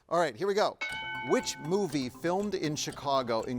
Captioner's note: bell dings